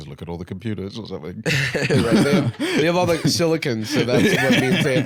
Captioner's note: laughs